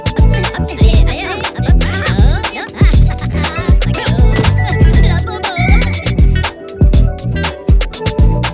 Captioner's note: Minions are speaking in Minionese